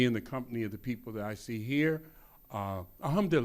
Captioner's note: speaks in foreign language